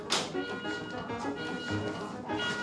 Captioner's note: beeping